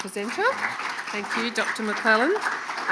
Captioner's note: audience applauding